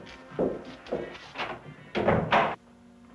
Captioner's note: door closing